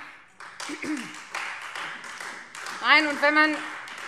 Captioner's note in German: Beifall Freie Demokraten